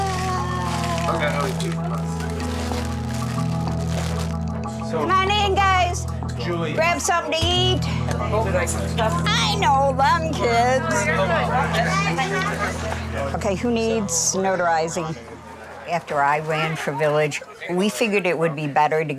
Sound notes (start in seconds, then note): 2.6 pensive music; 2.6 plastic crackling; 11.3 pensive music; 11.3 people chattering